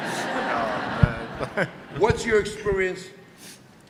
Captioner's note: audience laughter